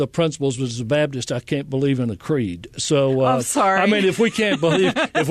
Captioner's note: laughter